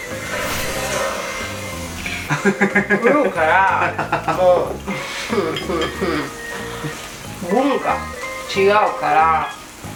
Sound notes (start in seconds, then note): 2.3 laughs